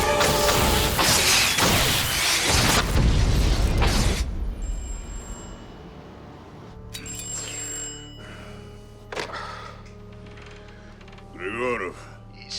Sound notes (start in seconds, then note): 2.6 explosion booms; 4.1 phone rings